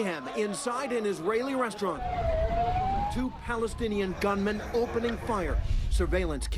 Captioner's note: sirens